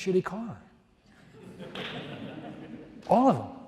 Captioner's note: audience laughs